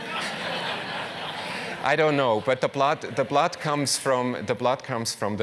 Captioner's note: laugh